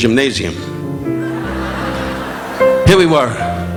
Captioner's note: audience laughing